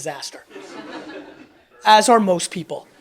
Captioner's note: audience laughs